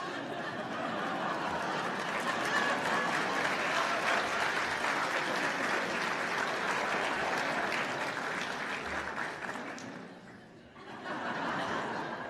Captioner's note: laughter and applause